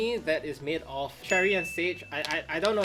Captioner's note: graphic chimes